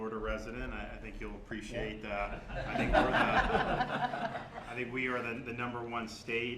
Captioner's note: laughter